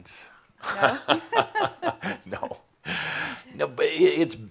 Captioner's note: they both chuckle